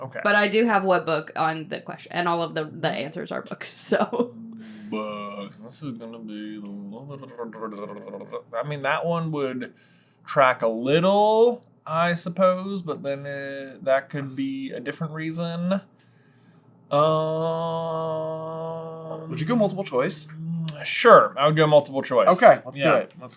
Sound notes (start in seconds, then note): 7.1 tongue flutters